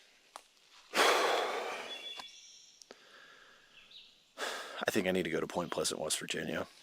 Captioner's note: sighs